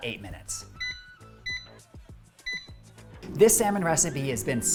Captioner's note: air fryer beeping